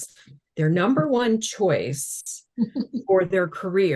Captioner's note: chuckling